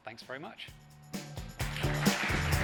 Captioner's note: applause